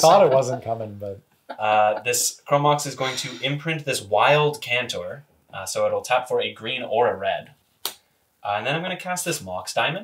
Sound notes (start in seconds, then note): 0.0 laughs